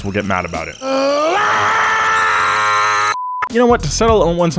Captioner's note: screaming